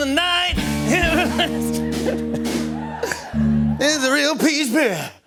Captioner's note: laughing